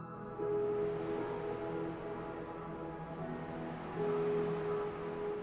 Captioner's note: wind blows; serene music continues